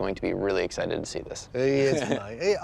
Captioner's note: laughs